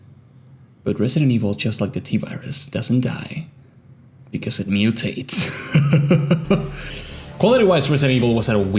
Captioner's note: chuckle